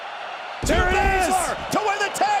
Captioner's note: bodies boom